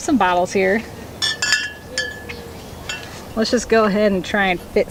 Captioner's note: clanking